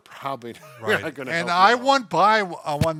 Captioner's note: laughs